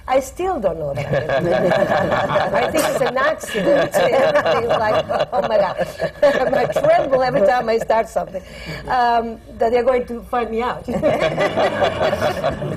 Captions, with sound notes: I still don’t know that I could be! (LAUGHTER) I think it’s an accident! Everything is like, “Oh, my God!” And I tremble every time I start something, that they are going to find me out.